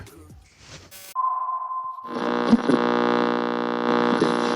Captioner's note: feedback buzzes